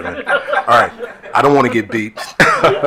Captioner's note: attendees laughing